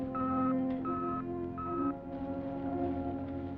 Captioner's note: device beeping